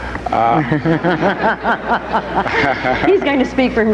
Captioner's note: laughing